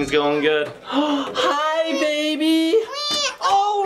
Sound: gasps; baby crying

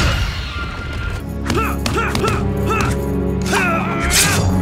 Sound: groaning

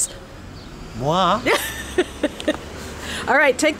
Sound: laughing

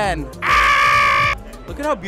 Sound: screams

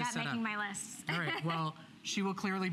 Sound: laughter

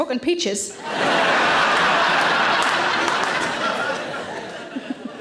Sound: audience laughing

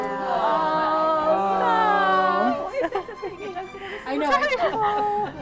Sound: crowd talking over each other

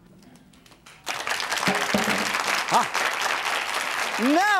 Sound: audience claps

